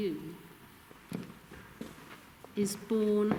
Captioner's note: footsteps